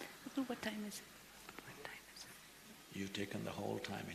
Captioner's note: Whispers to Sadhguru; Whispers to Kangana